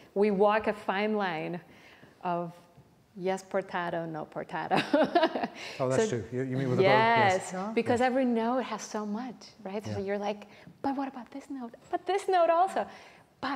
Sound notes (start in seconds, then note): 4.9 laughs